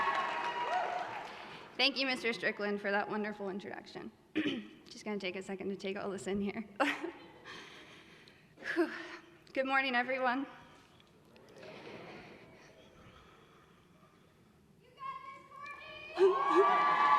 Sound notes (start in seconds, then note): 7.0 laughs; 15.0 voiceover; 16.1 cheering